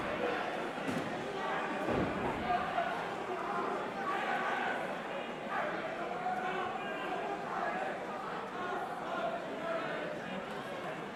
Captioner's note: crowd chatter